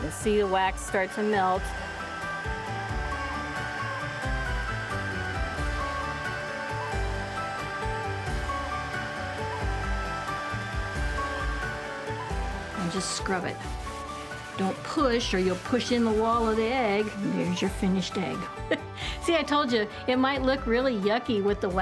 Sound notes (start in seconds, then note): 1.8 gentle music; 1.8 hair dryer blowing